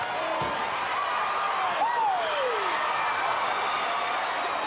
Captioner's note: audience cheering